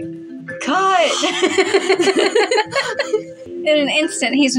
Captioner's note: giggle; laugh